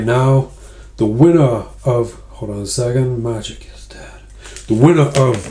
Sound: whispering

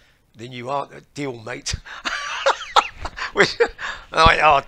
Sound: laughter

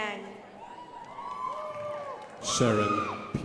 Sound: crowd applauding

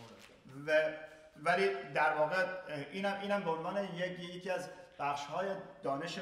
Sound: speaking in farsi

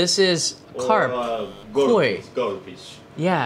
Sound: buzzer

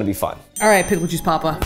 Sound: bell dings

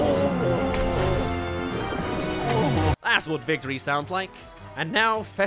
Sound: groan

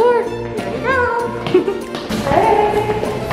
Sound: chuckling

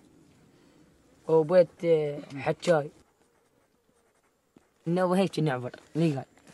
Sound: group speaking in foreign language continues

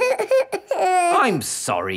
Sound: whimpers

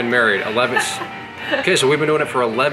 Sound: woman laughing

